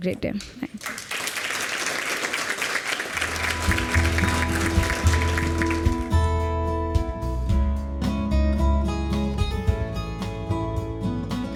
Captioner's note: applause